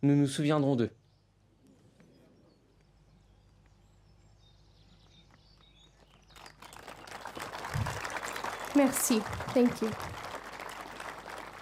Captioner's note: speaking French